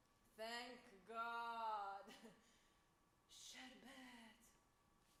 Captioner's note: woman speaks Arabic; speaks Arabic